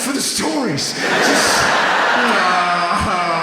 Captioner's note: audience laughs